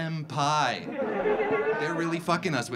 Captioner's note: audience laughing